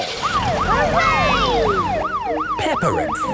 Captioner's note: siren